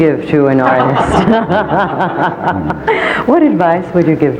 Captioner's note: laughing